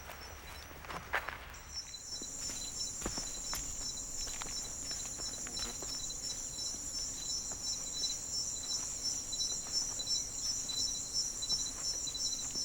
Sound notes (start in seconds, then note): none